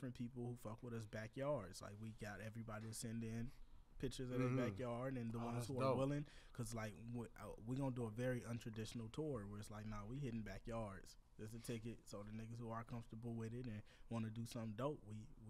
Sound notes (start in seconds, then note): none